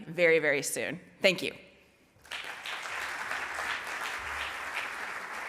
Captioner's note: audience applauds